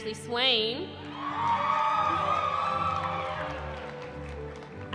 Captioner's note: cheering